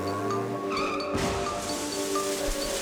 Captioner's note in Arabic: صرير الفرامل